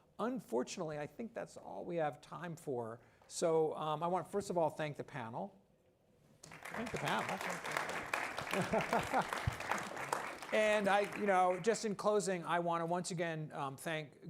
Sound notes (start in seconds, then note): 6.4 applause; 8.4 chuckles